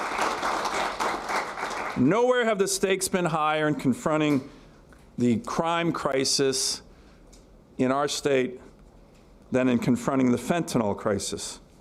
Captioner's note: applause